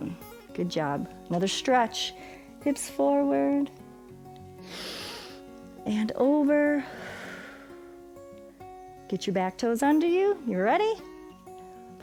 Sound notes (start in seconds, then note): 4.2 inhales; 6.8 exhales